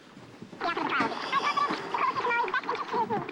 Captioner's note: fast-forwarding